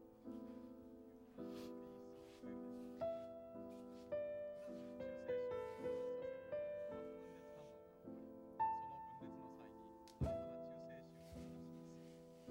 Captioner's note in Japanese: テレビの音声